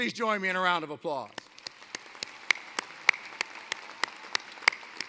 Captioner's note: applause